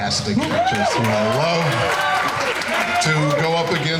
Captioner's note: crowd cheering